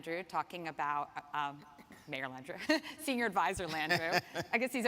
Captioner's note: laughs